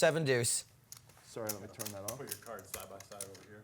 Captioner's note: voiceover